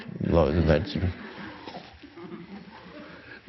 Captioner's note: crowd laughing